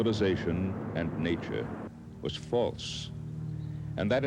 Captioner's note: electrical humming